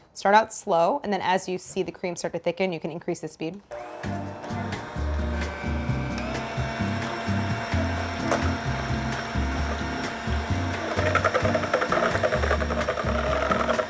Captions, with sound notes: Start out slow, and then as you see the cream sort of thick, you can increase the speed. (gentle upbeat music) (mixer whirs)